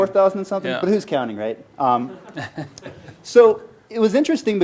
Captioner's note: laughter